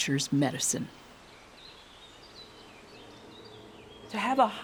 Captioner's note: birds chirping